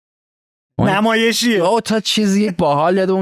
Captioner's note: laughs